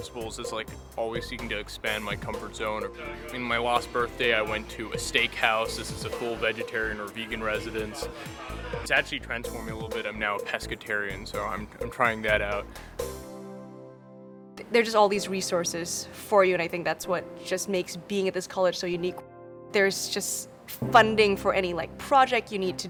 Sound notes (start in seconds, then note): 3.8 people talking